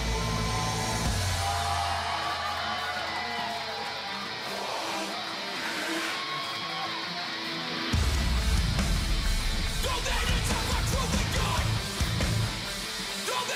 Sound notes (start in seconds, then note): 2.9 cheers and applause